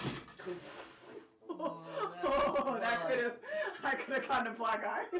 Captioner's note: laughs